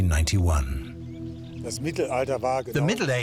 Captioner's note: speaking German